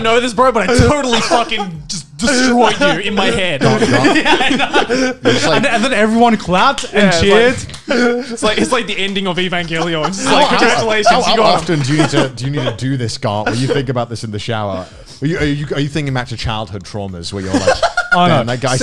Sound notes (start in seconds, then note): 3.3 laugh